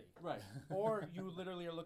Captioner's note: laughs